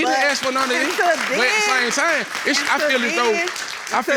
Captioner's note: audience applauding